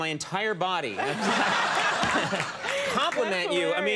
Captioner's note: audience laughing